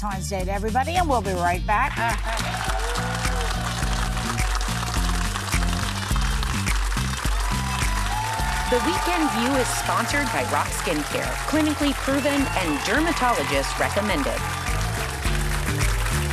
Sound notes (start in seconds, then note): 3.2 audience applauding; 6.7 upbeat music